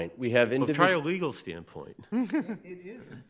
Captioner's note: person laughing